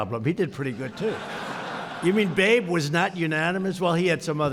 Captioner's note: laughter